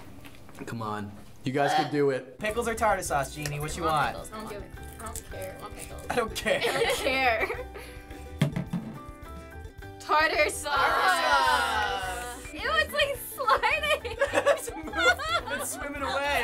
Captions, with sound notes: - Come on. You guys can do it. - (gagging) - Pickles or tartar sauce, Jeannie? What you got? - Come on, pickles. - I don't care. - "I don't care." - I don't care. Tartar sauce. - (groaning) - Ew, it's sliding! - (laughing) It's swimming away.